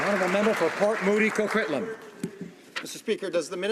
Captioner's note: some Applause